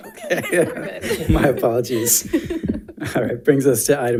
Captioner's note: laughs; board members laughs